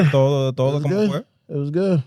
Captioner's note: speaking Spanish